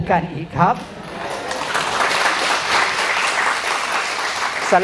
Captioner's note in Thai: ปรบมือ